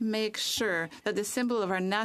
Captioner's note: speaking French